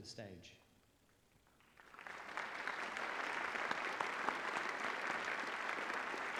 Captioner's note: applause